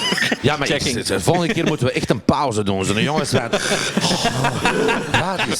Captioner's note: mumbles in Flemish